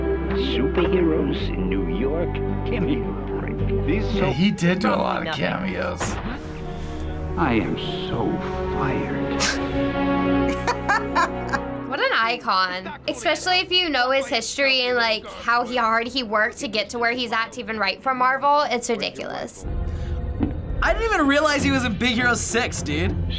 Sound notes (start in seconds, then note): 10.4 chuckles; 10.5 laughs